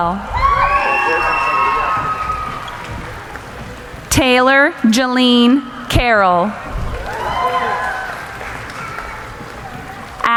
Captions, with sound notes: (cheering) Taylor Jalene Carol. (applauding)